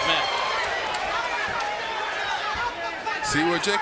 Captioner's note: crowd, corners shouting